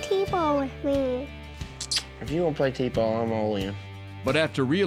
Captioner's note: kisses